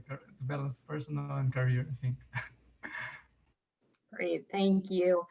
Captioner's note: chuckles